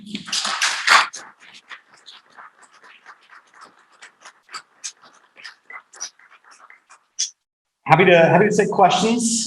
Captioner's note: applause